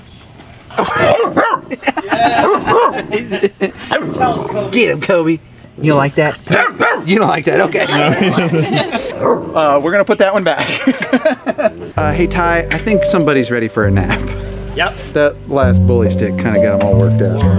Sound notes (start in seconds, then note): 0.8 puppy barking; 1.4 group laughing; 4.0 puppy growling; 6.5 Kobe barking